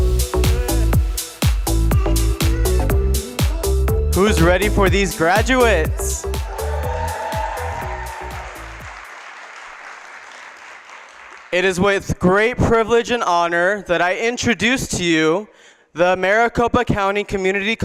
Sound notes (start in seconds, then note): 6.7 applause